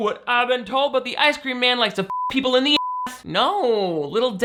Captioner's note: beep